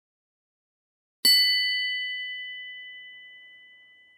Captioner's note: bell rings